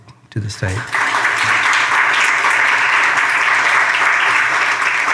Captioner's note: audience applauding